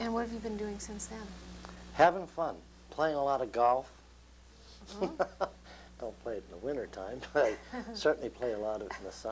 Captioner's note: laughter